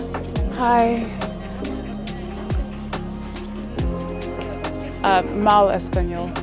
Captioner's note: Spanish